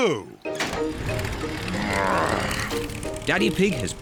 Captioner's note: engine starts